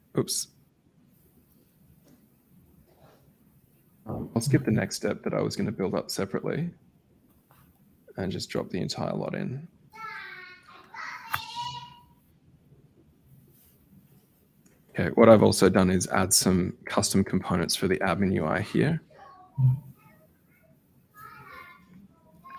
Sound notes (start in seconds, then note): 10.0 child chatters; 21.2 child chatters